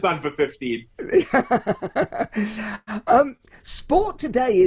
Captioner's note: laughs loudly